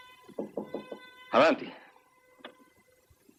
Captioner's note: knocking